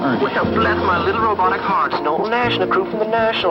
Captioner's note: robotic voice